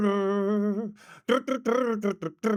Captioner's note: humming